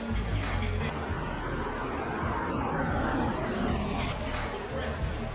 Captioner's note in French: le moteur de la voiture rugit